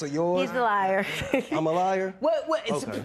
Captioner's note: chuckles